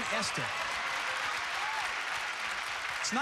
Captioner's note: cheers and applause